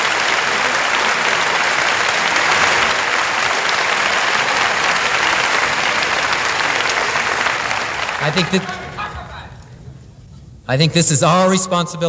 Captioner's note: applause